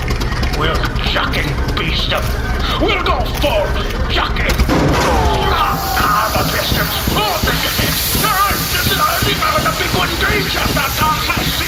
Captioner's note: popping; screaming